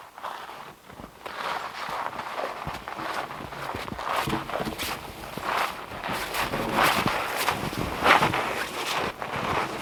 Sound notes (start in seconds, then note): 2.8 log scraping; 3.1 footsteps crunching